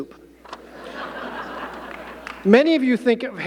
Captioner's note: audience laughing